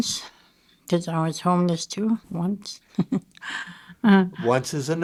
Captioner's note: chuckling